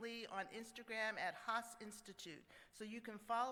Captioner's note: none